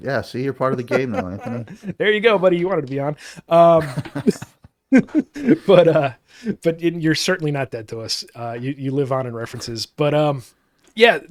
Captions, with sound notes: Yeah, see, you're part of the game now, Anthony. There you go, buddy, you wanted to be on. (both laughing) But you're certainly not dead to us. You live on in references, but yeah,